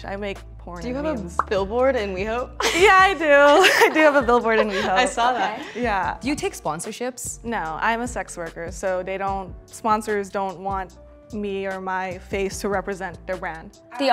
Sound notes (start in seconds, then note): 3.5 laughing